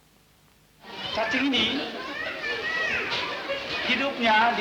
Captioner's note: Indonesian speech